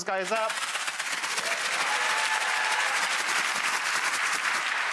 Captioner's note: audience applause